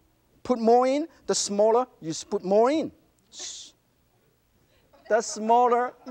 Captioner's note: laughter